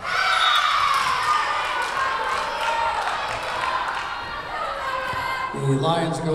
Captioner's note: Lions cheering; whistle blowing